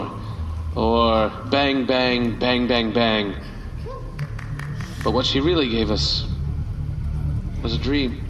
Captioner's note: single audience member applauds